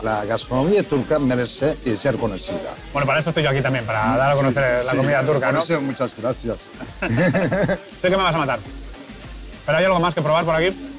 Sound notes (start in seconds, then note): 6.7 laugh